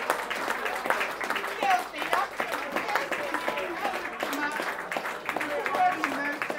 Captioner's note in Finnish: Aplodeja